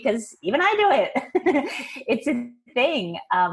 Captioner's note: chuckling